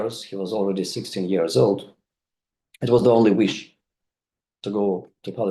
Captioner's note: none